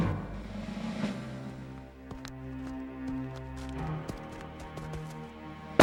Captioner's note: gunshots firing